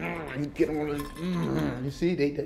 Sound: growls

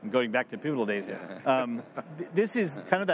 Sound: chuckles

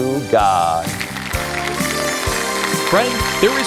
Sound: applause

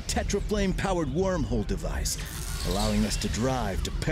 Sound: whirring

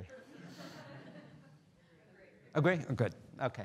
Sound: students laughing

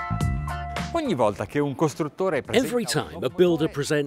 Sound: speaking in foreign language

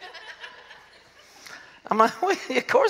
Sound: laughter

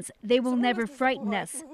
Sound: speaking alternate language

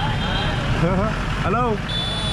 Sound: laugh

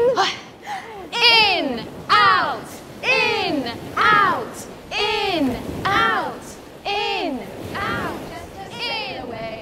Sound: waves crashing

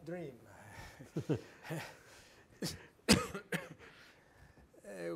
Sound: group laughing

